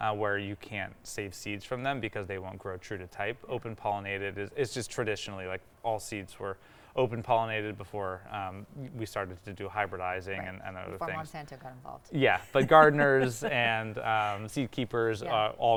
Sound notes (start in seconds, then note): 12.5 laughing